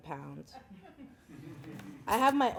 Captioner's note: laughing